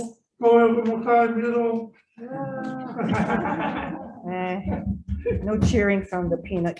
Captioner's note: laughs